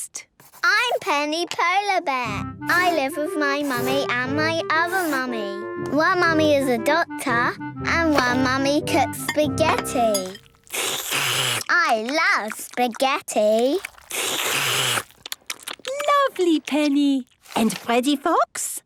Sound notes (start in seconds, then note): 10.2 slurping; 13.7 all slurping